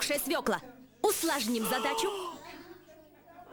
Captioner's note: sigh